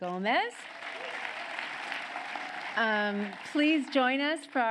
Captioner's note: applause